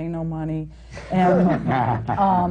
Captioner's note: laughter